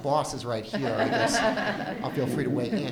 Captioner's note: audience laughs